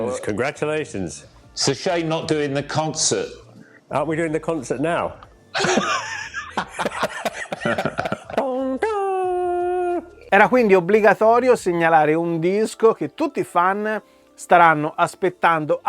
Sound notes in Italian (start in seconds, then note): 5.5 Risate